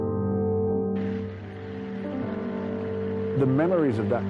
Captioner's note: soft dramatic music continues; audience applauds